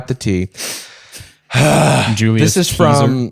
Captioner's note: heavy sigh